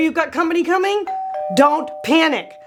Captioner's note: doorbell rings